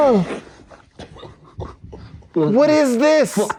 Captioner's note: laughs